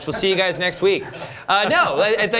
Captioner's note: laughter